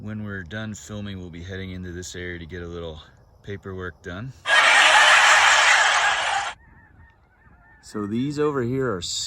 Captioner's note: canned laugh track